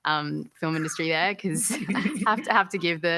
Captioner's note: laughter